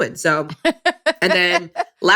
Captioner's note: laughs